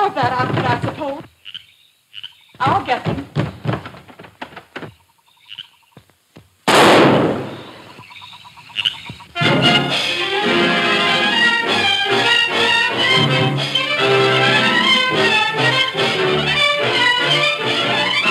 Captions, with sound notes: More of that outfit, I suppose. I'll get them. (gun roars) (dramatic music)